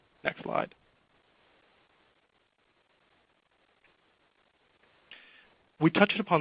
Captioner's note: silence